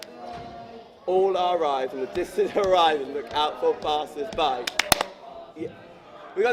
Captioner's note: clap